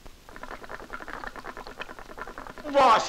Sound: hookah gurgles

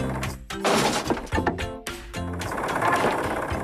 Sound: driftwood Clattering

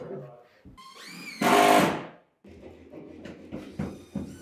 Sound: drill whirring

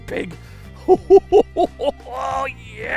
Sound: laughs

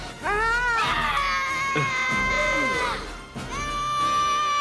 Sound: yells

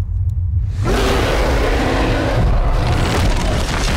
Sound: loud roar; crashing

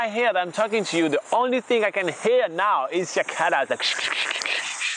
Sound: accurate cicada noise

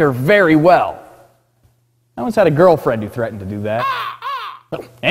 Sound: crows caw

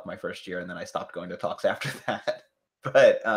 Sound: laughs

